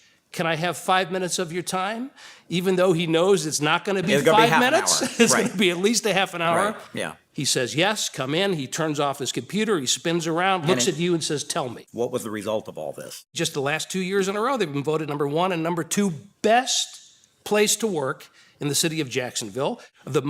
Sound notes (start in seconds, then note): 4.0 laughs